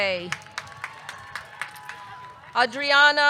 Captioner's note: audience clapping; audience cheering